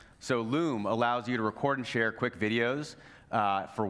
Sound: none

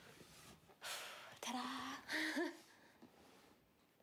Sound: chuckles

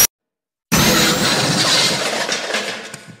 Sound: crash!!!

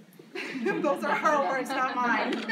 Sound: laughs

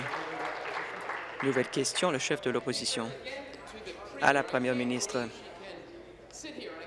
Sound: applause

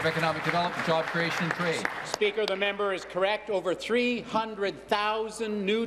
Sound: applause

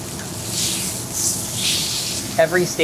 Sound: steak sizzles

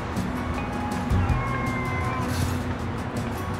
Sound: meows

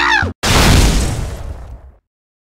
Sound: boom!

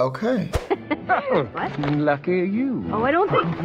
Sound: laughs

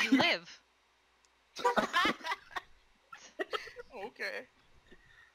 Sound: laughing

